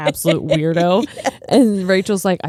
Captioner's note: laughing